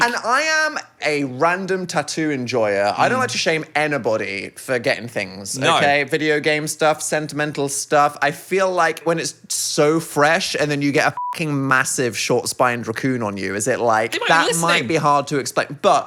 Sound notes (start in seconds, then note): 11.2 beep